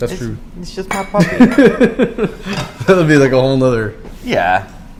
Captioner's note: chuckle